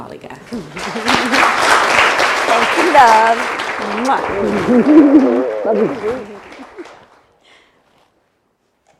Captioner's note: applause